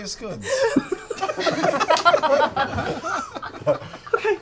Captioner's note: laughter